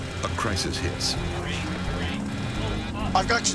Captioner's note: automated Voice